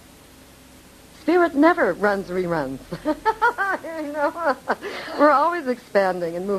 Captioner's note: laughing